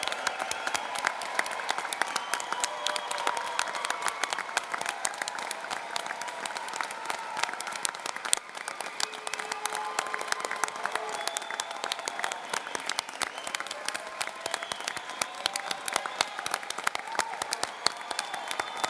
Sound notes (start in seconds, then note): 5.2 applause